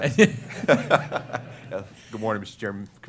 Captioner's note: laughter